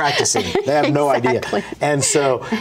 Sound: laughs

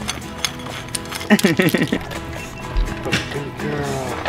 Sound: treats crunching

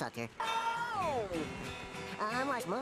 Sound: wailing

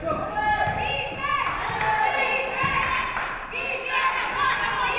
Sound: audience cheering

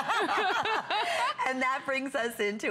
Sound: laughter

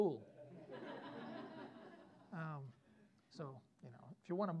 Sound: students laughing

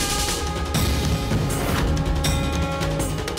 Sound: conch blows

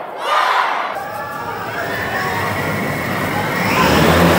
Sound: drone whirs

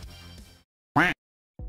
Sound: quack

